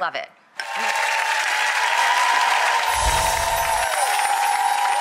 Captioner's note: applauding